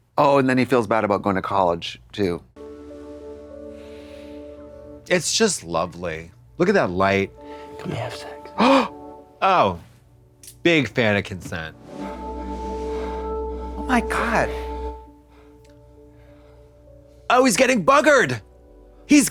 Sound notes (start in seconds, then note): 2.8 soft music; 8.5 Trixie gasps